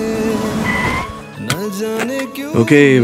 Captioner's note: Tires screeching